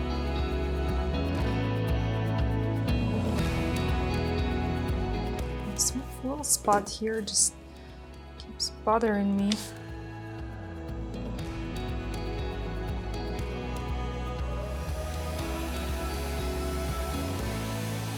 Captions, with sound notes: This little spot here just keeps bothering me. (upbeat music) (blower blows)